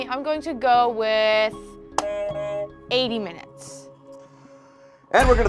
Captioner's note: buzzer rings